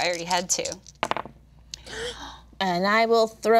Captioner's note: dice clattering; group gasping